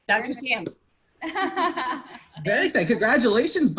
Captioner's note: laughter